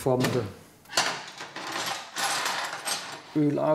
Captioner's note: clanking and clattering